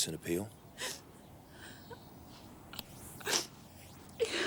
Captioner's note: sniffing